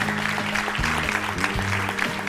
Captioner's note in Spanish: aplausos